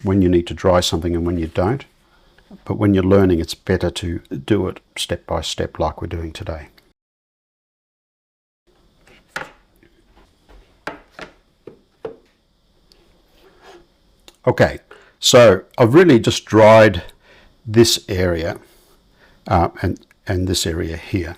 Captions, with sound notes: when you need to dry something and when you don't. But when you're learning, it's better to do it step by step like we're doing today. [silence] Okay, so I've really just dried this area and this area here.